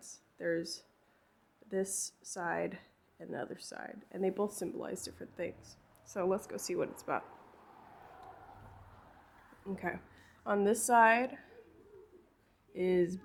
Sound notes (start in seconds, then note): 6.4 audience cheering